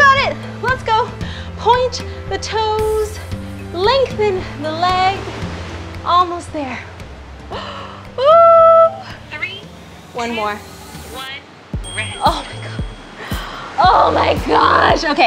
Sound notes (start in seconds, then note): 7.8 cries; 11.8 timer rings